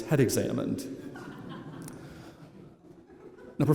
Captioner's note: laughter